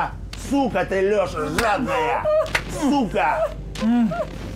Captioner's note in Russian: шлепки по лицу; женский плач